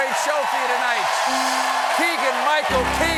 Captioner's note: cheers and applause